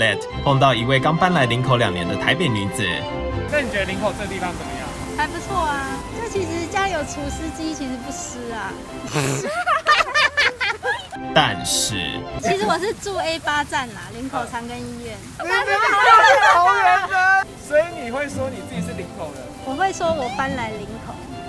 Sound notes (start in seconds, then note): 9.0 chuckling